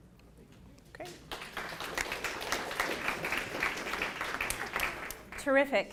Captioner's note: applause